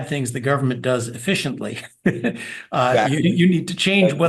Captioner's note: laugh